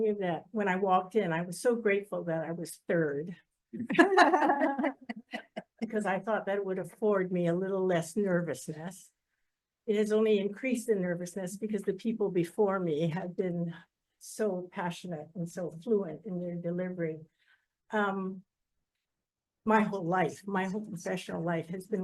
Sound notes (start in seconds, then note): 3.8 people laughing